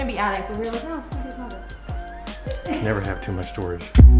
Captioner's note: speaks faintly